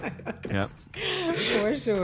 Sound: laughing

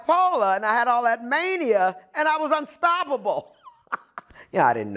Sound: laughs

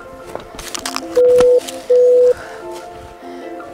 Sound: beep Beep

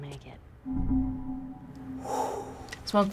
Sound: eerie chime; breathes sharply

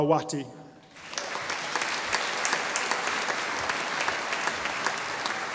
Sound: audience applauding

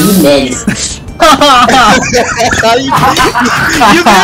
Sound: laughter

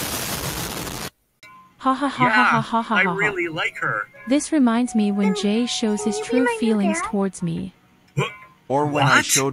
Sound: laughs

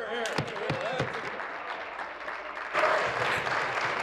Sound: applause

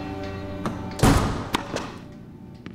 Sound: door slams; ball bouncing

